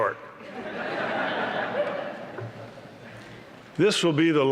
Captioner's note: laughter